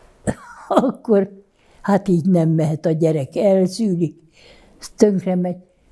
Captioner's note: laughing